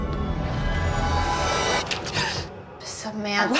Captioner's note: gasping